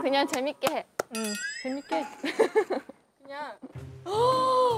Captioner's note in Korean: 풉ㅋ